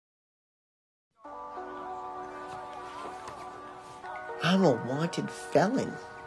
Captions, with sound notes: (ominous music) (people chattering) - I'm a wanted felon.